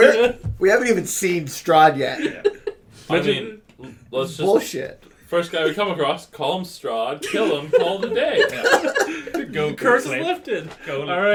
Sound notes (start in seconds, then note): 7.3 everyone is in gigglefits by now